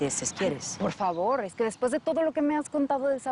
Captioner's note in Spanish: none